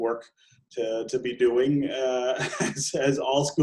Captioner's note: laughing